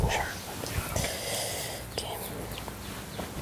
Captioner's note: whispering